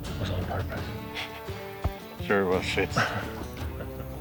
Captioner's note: laughs